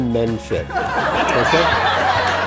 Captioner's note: crowd laughs